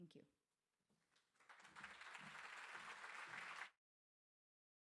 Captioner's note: crowd applauding